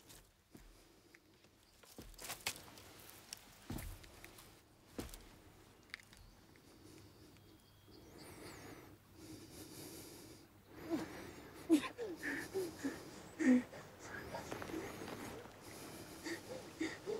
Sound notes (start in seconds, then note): 10.8 grunting and panting